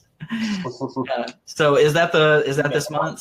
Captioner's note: laughs